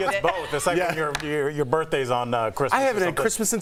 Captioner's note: laughter